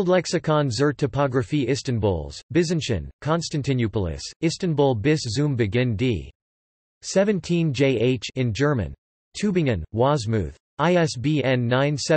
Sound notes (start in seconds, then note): 9.4 in German